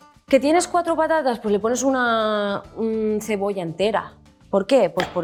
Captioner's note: speaks in Spanish